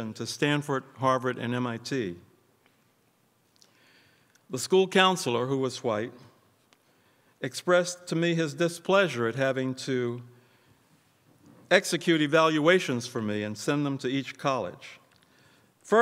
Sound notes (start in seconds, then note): none